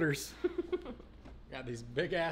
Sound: woman laughing

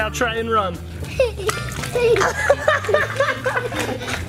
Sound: laughs

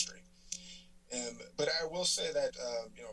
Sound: tongue clicking

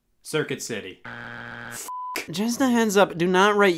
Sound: buzzer beeps; beep

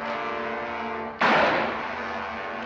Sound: gunshot

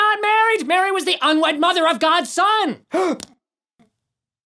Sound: gasps

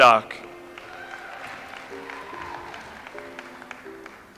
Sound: audience applauds

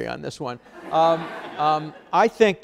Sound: audience laughs

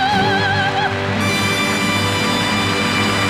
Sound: audience applauding

